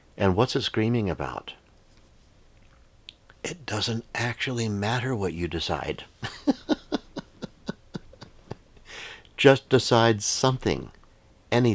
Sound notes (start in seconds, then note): 6.2 laughing